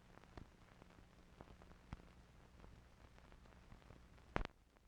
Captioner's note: static crackling